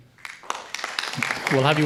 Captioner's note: audience applauding